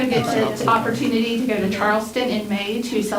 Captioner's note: crowd talking indistinctly